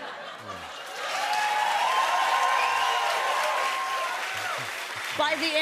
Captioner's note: cheers and applause